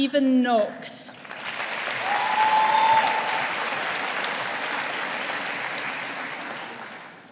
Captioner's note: audience applauding